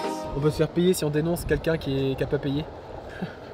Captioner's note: laughs